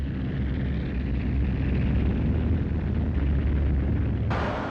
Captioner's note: vehicles rumbling